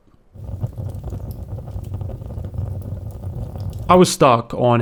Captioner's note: fire crackling